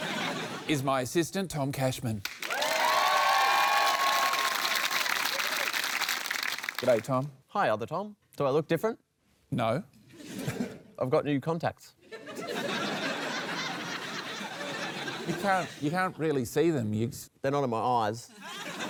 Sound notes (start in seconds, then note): 2.3 cheering, applause; 12.1 laughter